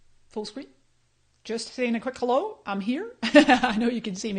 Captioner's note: laughs